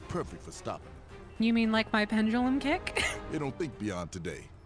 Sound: laughing

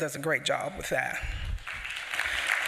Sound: applause

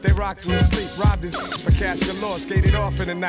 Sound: rapid beeps

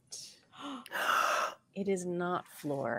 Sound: players gasp

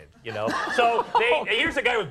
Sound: Conan laughs

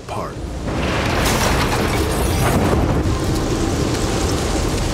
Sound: cracking, glass breaking

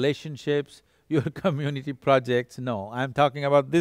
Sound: laughs

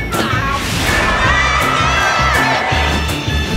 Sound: crowd cheering

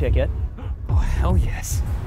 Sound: gasp

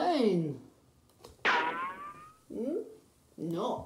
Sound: more ricochets

